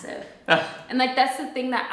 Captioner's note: chuckles